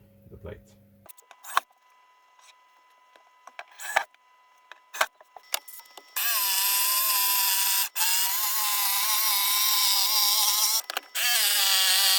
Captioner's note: working sounds